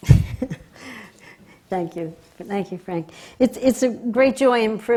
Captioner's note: laughs